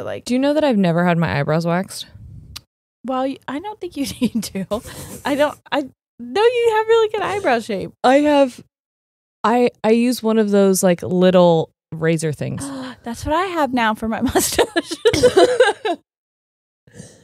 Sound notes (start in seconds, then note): 4.3 chuckles; 12.6 gasps; 14.4 both laughing